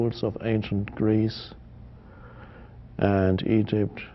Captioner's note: none